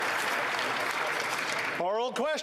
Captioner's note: applause